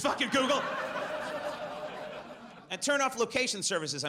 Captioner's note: audience laughs